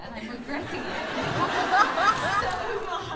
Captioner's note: laughter